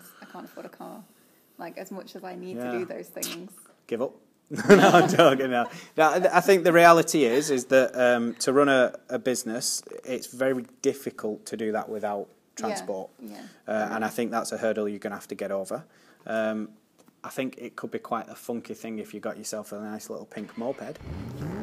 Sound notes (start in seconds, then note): 4.5 laughter